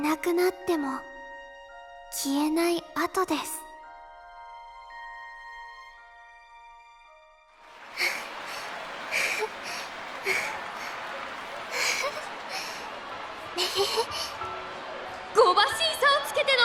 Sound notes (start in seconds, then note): 7.9 huff; 11.9 sigh